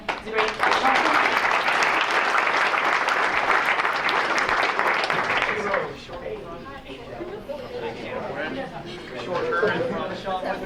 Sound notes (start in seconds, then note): 4.0 applause; 5.6 group chattering